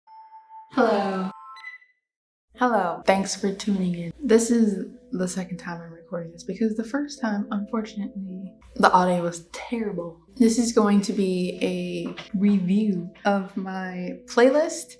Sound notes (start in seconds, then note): 0.6 beep sfx